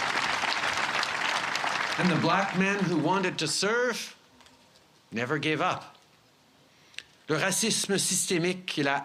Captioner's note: cheers and applause